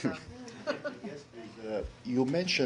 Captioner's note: laughter